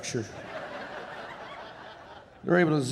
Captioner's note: audience laughing